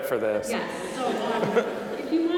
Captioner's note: audience laughing